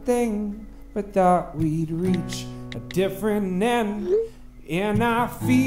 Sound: text alert

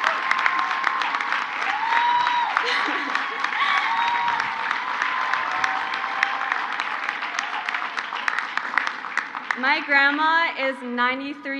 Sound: crowd applauds; crowd cheers

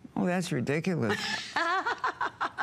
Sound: laughter

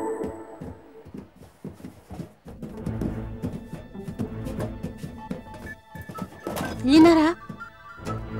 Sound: crawling sounds

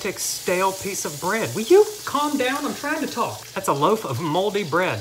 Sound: pan sizzles

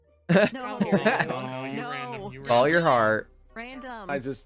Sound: laughs

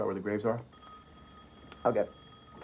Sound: ring

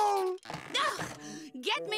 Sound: groans

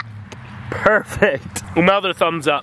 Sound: laughs

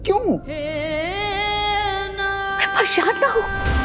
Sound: emotional vocalising

